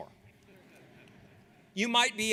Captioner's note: audience laughs